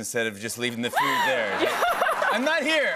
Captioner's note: laughter